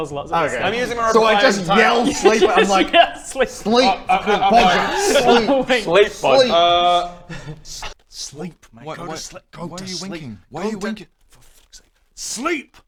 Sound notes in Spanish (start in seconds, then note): 8.1 susurró